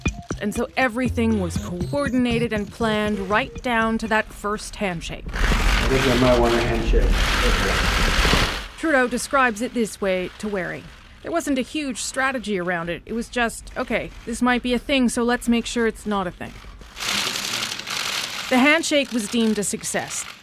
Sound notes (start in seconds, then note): 5.3 camera shutters; 16.4 camera shutters